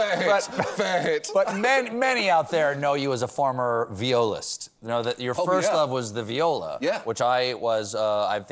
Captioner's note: laughs